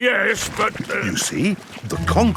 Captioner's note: stutters